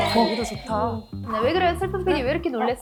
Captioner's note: spotting something sound effect